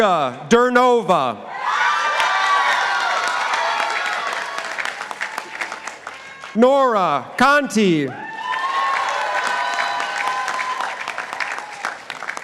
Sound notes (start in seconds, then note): 2.0 participants applauding; 8.1 participants applauding